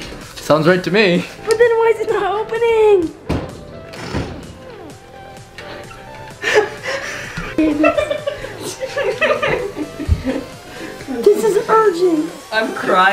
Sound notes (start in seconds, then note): 7.4 laughter